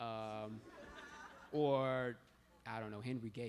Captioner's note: laughter